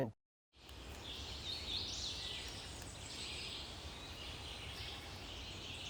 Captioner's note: birds and insects chirping